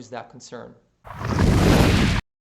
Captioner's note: thunder